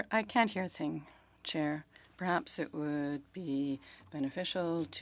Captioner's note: speaking French